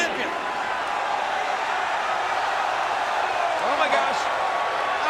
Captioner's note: crowd cheering